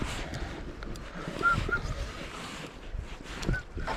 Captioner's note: whistles